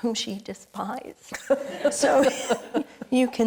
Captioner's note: panelists and audience laughing